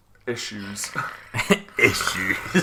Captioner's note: predator noises